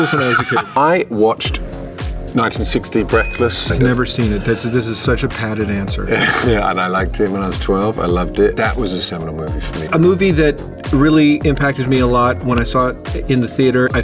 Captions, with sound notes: when I was a kid!" (Theo laughs) I watched, 1960, Breathless. (bell dings) - I've never seen it. This is such a padded answer. - Yeah. And I liked it when I was 12. I loved it. That was a seminal movie for me. - A movie that really impacted me a lot when I saw it in the theater,